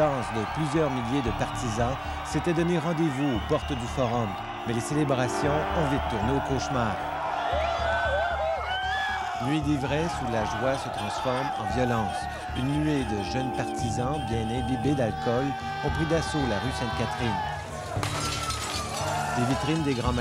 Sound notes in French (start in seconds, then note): 5.9 cris de joie des partisans; 17.5 fracas